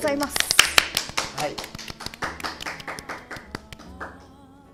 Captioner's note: applause